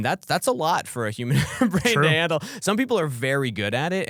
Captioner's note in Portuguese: risos